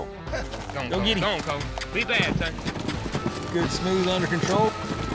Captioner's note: cheers